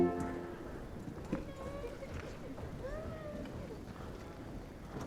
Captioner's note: people murmuring